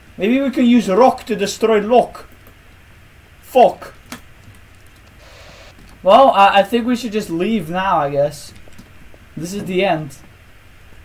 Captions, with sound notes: Maybe we can use rock to destroy lock. Fok. - [spray sound] - Well, I-I think we should just leave now, I guess. This is the end.